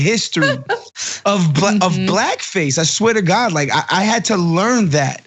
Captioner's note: laugh